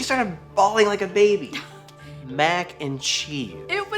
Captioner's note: Esther huffs